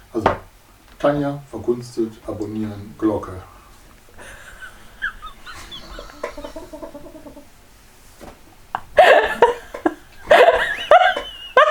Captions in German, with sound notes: [Aus dem Off] Also: Tanja, verkunstet, abonnieren, Glocke.... *lacht* [Aus dem Off] *Stuhl knarzt* *lacht mehr*